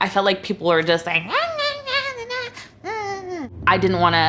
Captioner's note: mocking sounds